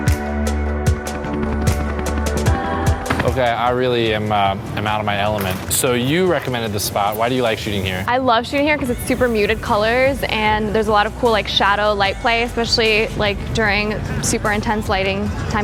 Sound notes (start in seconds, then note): 1.7 helicopter blades whirling